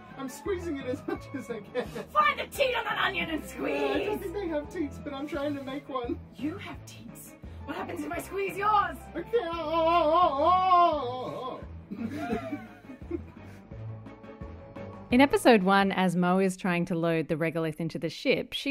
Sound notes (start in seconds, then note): 11.9 laughter